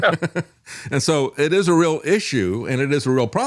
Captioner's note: laughs